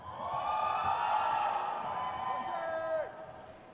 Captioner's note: crowd cheers